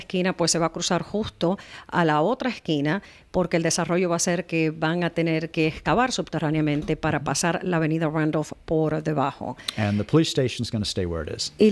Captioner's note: Hablando ingl\s